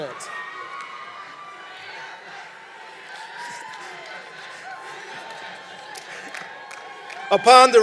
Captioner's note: cheering